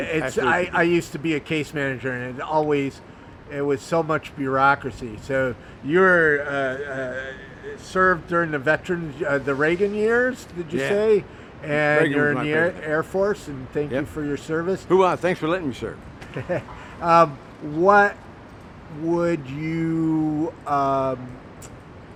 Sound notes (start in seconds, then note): 13.0 speaks faintly; 16.2 interviewer chuckling